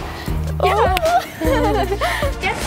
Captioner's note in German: Lachen